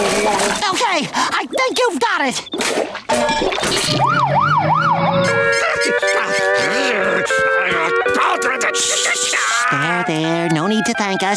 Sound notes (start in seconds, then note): 3.1 siren wailing